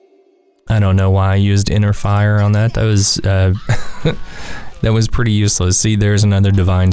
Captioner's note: haha